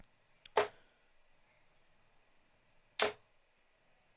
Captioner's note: dart ticks